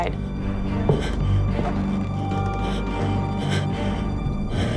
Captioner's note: loud thuds